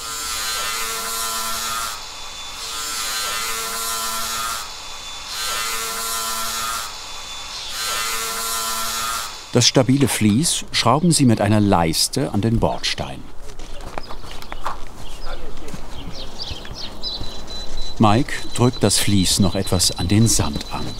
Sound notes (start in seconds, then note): 0.2 electric whirring; 13.6 birds chirping; 17.3 beeps